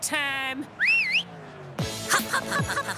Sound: whistles

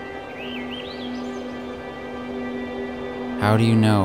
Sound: birds singing

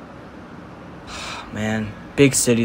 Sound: sighs

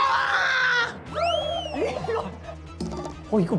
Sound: laughing

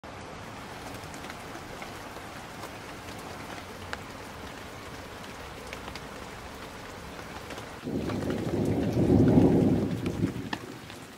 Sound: rain pattering

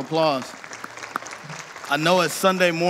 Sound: audience applauding

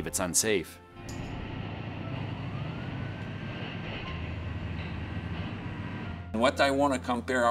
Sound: truck driving away

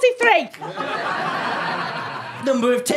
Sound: audience laughter

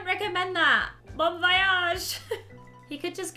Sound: chuckles

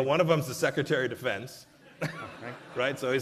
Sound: laughter

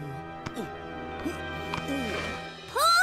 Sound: person grunting

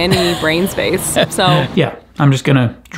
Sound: laughs

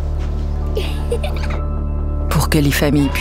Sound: Rires

